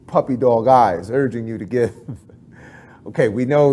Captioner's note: chuckles